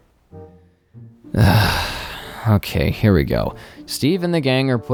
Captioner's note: groans